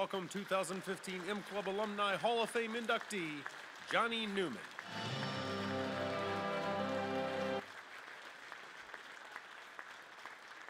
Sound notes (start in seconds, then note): 0.0 voiceover; 5.3 crowd claps